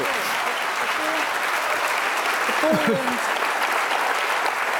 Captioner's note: audience applause